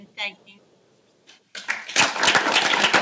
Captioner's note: applause